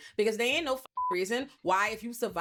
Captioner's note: beep